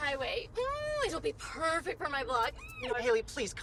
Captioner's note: squeals